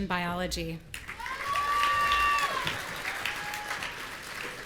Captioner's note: audience cheering